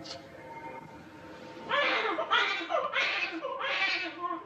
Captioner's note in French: Le bébé pleure